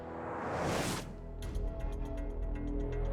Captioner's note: none